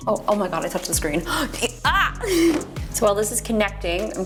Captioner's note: gasps